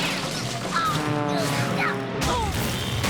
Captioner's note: grunting; crash! screech! zoom!